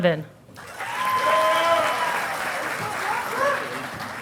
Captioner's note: audience applauding